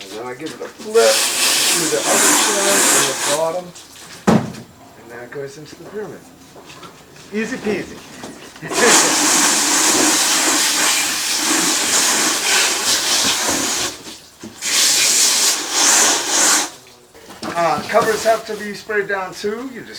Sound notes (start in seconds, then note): 8.3 water spraying